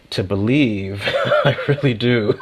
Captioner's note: laughs